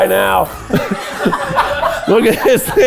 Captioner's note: everyone laughs